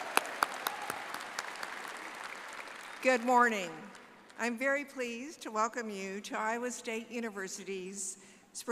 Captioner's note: applause